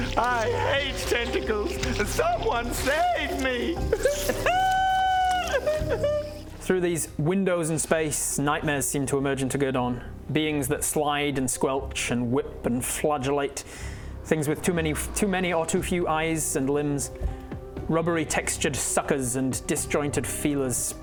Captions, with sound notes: I hate tentacles someone sAvE me! *big_cry.wav* Through these windows in space nightmares seem to emerge into Gerdawn beings that slide and squelch and whip and flagellate things with too many or too few eyes and limbs rubbery textured suckers and disjointed feelers